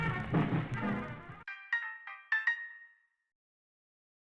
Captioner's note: chime is heard